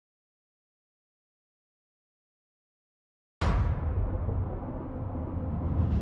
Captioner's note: thunder